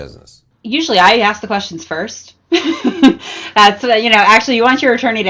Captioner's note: laughs